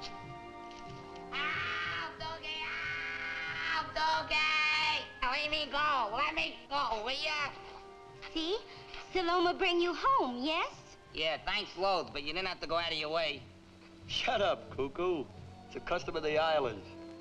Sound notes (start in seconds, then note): 1.3 screams